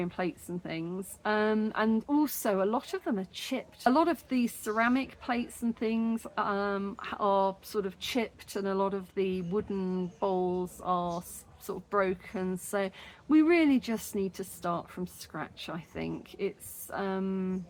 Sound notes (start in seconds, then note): none